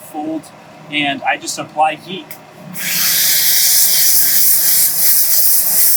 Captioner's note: steamer whooshing